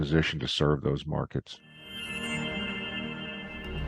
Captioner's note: shimmering